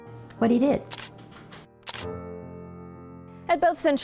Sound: camera shutter clicking

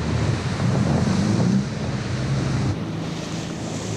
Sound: water rushing rapidly; engine roaring

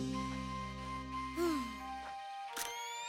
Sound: exhales

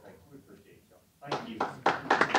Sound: applause

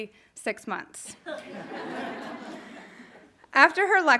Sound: audience laughing

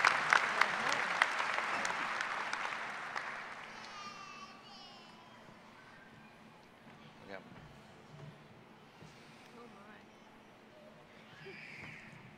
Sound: applause

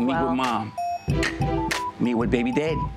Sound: clicks

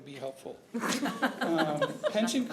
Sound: laughter

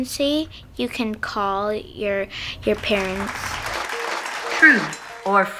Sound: audience applauds

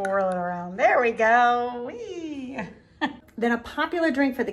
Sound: laughing

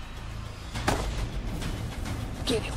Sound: gunshot

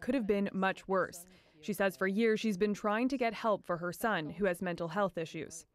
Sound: speaking French

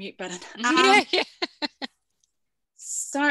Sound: laughs

